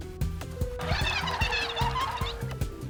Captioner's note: cheers and applause